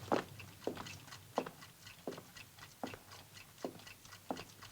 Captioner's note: clocks continue ticking